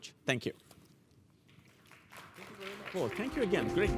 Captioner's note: applause